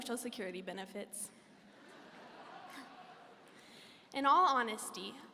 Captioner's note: audience laughing